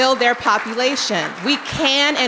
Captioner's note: audience clapping